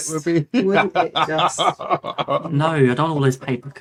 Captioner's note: laughing